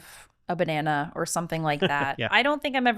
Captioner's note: laughing